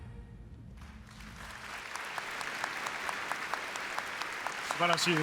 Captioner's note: applause